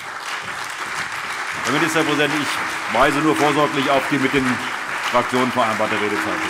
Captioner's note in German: Beifall CDU, BÜNDNIS 90/DIE GRÜNEN, AfD, Freie Demokraten und vereinzelt SPD